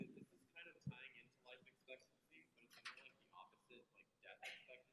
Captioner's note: student mumbling